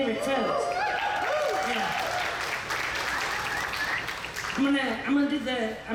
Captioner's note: audience cheers; audience applauds